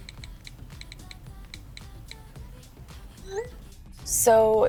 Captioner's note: cell phone keys clicking